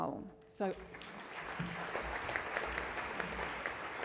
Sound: crowd applauds

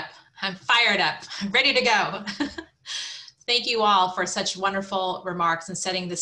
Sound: laugh

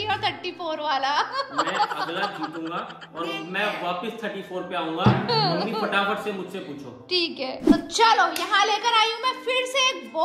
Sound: laughter

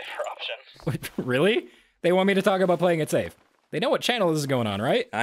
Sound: spit take

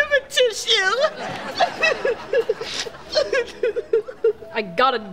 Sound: crying

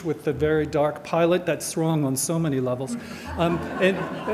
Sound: audience laughter

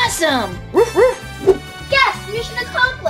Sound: Rocky barking

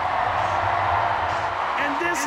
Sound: audience cheering

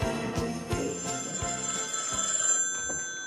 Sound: phone ringing

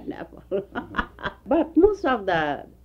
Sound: laughs

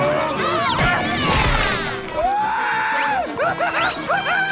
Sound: screaming

